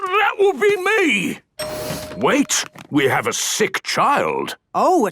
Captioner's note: door dings open